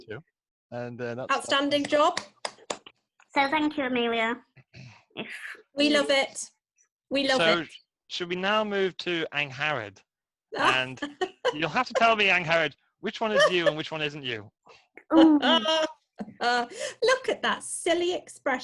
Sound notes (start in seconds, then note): 1.7 claps hands; 10.6 laughs